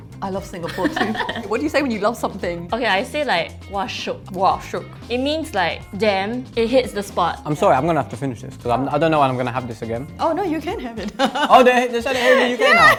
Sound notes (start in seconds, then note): 0.6 laughs; 12.1 laughs